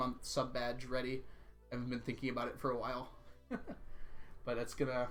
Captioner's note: laughs